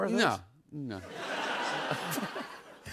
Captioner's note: laughter